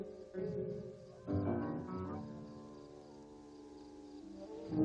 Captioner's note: wolf howling